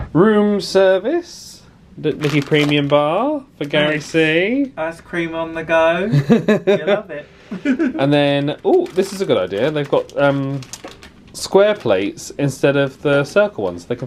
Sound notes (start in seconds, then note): 7.4 laughs; 7.4 laughing